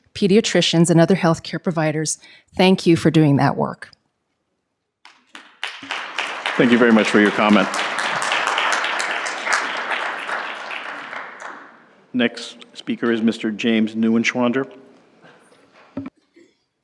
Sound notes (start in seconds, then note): 5.0 applause